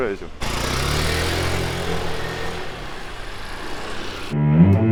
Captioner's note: 부아아아아아아아앙ㅇ